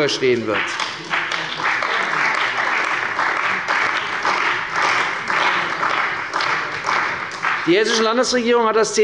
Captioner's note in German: Beifall bei der CDU und dem BÜNDNIS 90/DIE GRÜNEN